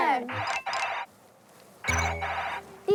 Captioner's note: ringing